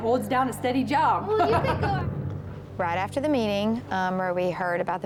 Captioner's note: giggles